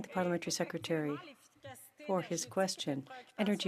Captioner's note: speaking French